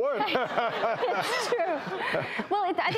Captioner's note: laughing